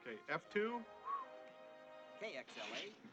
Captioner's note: whistles